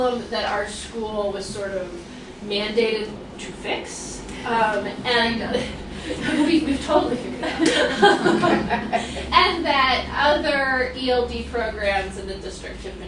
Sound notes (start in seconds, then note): 5.9 laughs; 7.1 laughter